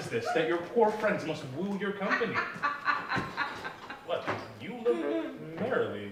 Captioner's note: ADAM laughs